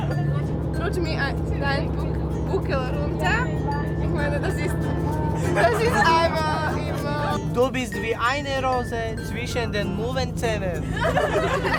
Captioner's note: German phrases